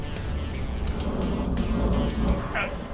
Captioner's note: rubber groaning